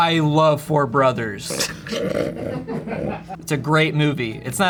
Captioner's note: everyone laughs